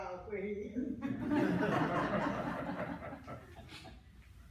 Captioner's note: laughter